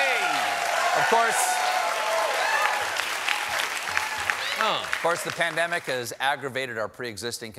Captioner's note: cheers and applause